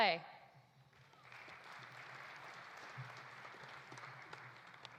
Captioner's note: audience applauding